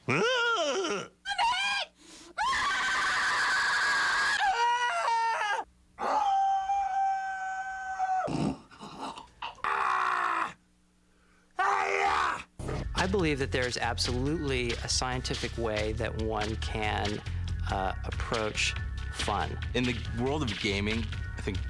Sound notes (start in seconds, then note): 2.3 screams; 6.0 howls; 8.4 snorts; 11.5 screams